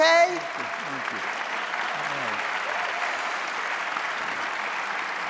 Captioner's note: audience applauding